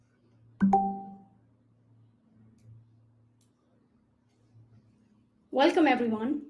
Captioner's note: alert pings